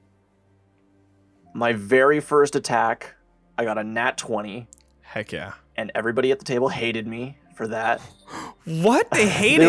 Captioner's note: laughs